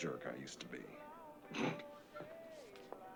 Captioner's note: scoffs